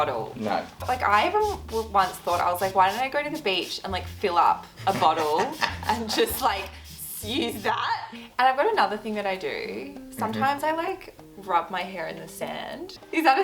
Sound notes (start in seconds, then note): 4.8 laughing